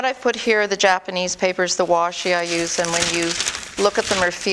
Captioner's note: paper crinkling